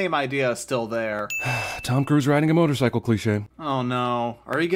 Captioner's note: sigh